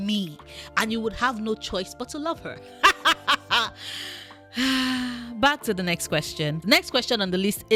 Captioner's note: sigh